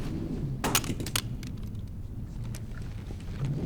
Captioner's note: gun clatters